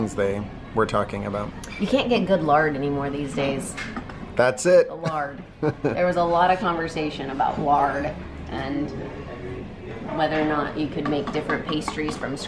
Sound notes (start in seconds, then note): 5.6 laughs